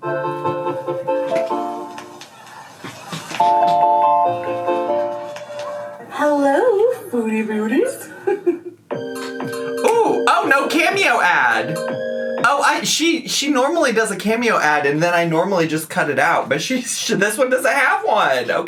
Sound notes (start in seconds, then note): 0.3 playful digital music; 7.8 laughs; 8.9 upbeat hip-hop music